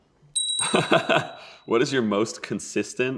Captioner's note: bell chimes; laughs